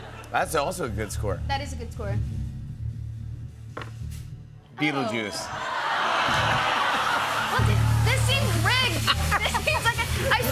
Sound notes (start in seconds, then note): 5.5 laughter